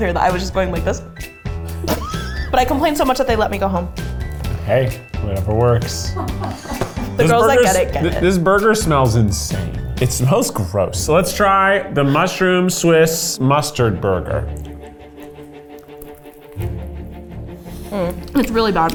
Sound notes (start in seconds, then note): 1.8 laughs; 6.2 crew laughs; 15.3 suspenseful music